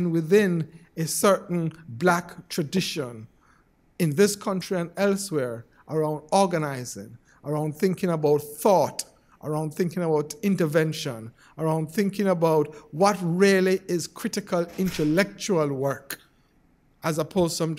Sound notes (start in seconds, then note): none